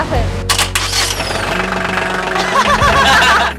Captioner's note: motor revs; laughs